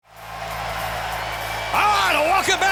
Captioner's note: crowd cheering